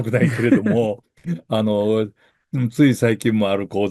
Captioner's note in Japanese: 咳払い